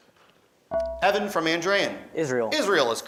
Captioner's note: beeping